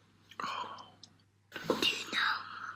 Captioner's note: whispering